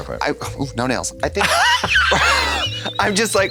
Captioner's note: blonde Women hee-haw